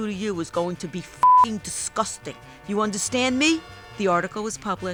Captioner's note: beep